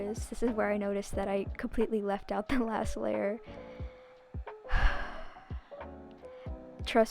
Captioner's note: sigh